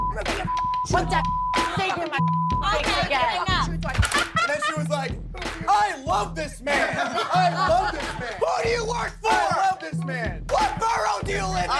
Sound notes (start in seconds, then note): 0.0 beep; 6.7 laughs